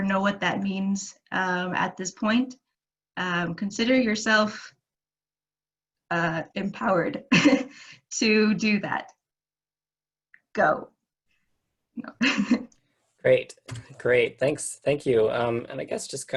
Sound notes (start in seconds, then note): 12.1 laughter